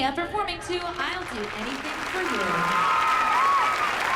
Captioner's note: cheering